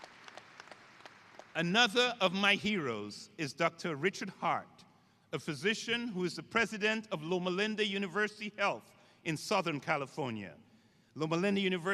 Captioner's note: applause